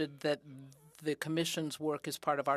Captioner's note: speaking in french